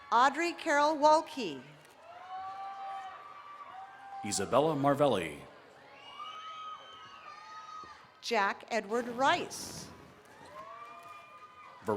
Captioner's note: cheering